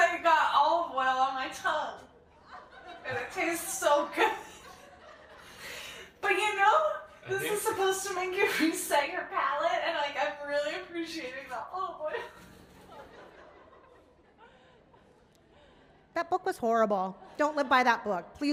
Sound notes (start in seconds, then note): 12.2 audience laughing